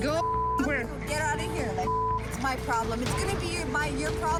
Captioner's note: beep